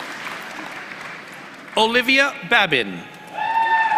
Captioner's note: applause